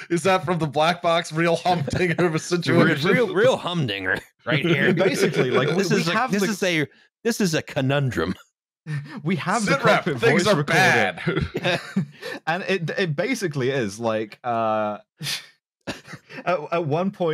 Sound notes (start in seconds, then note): 4.6 all laughing; 15.2 blows air out of nose